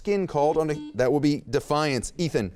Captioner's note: beep